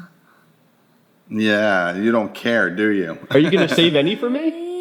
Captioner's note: laughing